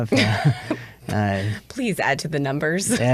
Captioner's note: chuckles